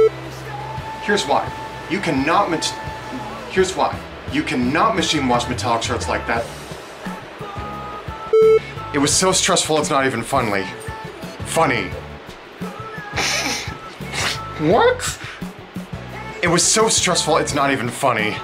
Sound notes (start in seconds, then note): 14.0 snorts